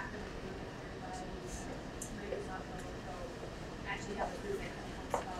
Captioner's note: speaking away from mic